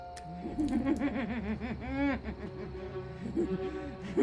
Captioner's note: vivien cackling